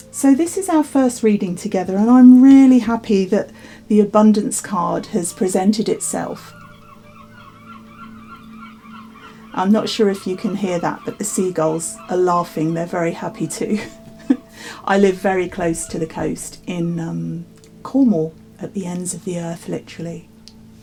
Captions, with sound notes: So this is our first reading together and I'm really happy that the abundance card has presented itself. (seagulls chatter) I'm not sure if you can hear that, but the seagulls are laughing. They're very happy too. I live very close to the coast in Carmel, at the ends of the earth literally,